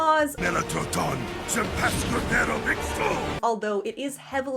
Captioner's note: speaking in Theroxian